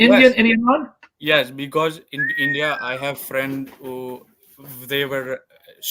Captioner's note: whistling